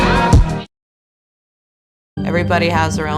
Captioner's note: silence